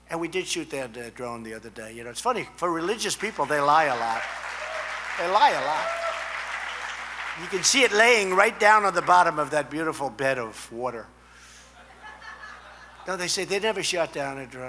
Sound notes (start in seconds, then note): 6.2 applause; 11.7 laughter